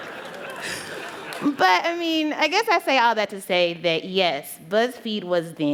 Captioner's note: laughter